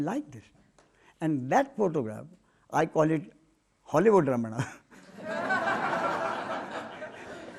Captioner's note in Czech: smích